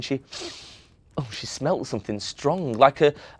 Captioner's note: sniffs